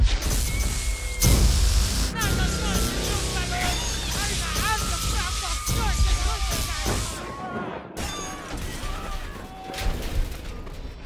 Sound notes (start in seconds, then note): 0.0 electricity crackling; 5.0 workers screaming and rambling